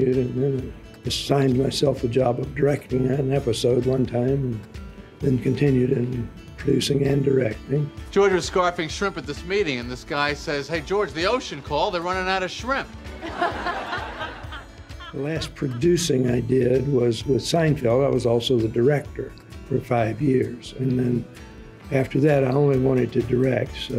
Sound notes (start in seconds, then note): 13.0 audience laughing loudly